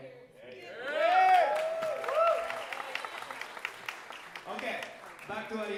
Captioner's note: audience cheering and applauding